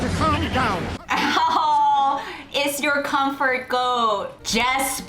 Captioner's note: laughs